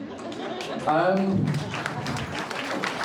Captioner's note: crowd applauding